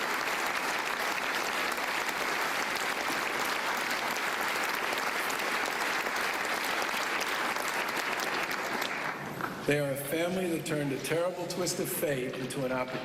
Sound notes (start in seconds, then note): 4.1 applause